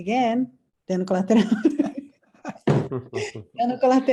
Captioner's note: laughing